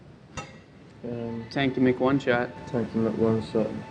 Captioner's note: glass clink